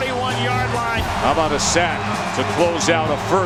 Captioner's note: voiceover